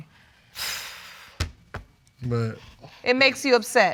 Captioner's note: sighs